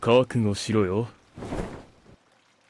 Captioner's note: his cape goes whoosh part 2